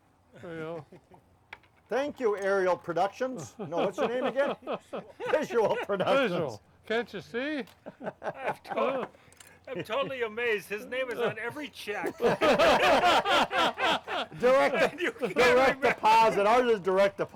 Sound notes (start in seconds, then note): 2.7 laughs; 10.8 men laugh